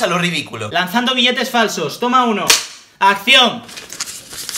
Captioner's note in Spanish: Ruido de claqueta